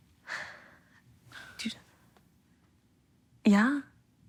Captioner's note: sighs